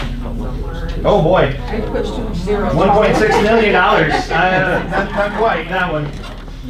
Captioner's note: laughs